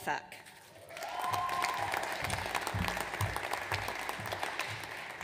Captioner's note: audience cheers